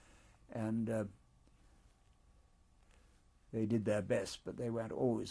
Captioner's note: pauses for 3 seconds